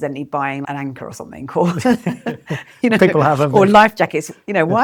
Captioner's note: laughs